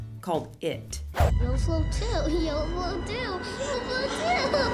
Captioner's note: laughs